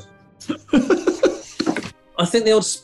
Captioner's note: giggling